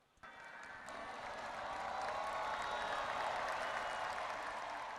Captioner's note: attendees cheering